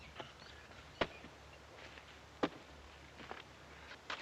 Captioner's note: axes chopping